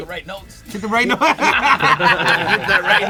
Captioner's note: laughter